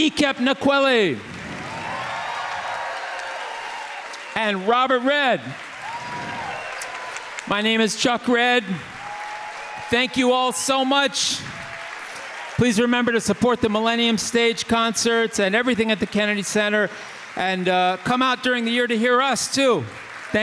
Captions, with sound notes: Ekep Nkwelle! (audience applauding) (audience cheering) And Robert Redd. (audience applauding) (audience cheering) My name is Chuck Redd. (audience applauding) Thank you all so much. Please remember to support the Millennium Stage concerts and everything at the Kennedy Center, and come out during the year to hear us too.